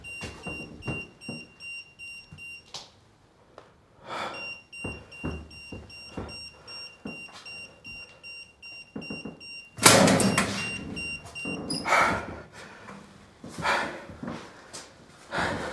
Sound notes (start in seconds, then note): 8.9 locker door clunks; 12.3 Wes breathing heavily